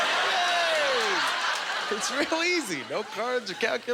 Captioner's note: audience laughter